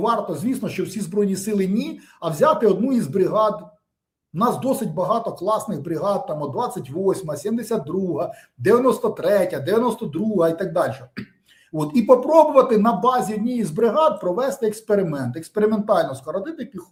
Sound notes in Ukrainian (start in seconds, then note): 11.1 прочищення горла